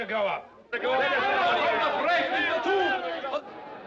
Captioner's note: Todos gritando